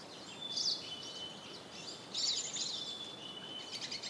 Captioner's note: birds tweeting